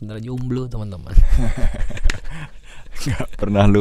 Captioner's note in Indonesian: tertawa